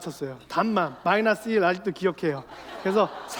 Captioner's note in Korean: 웃음